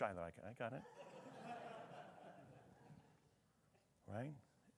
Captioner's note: attendees laughing